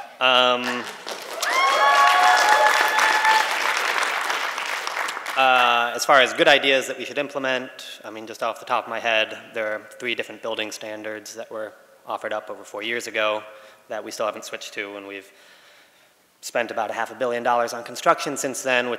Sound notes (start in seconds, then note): 2.1 applause